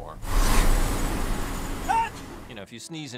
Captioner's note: sneezes